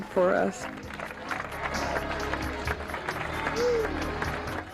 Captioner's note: crowd Clapping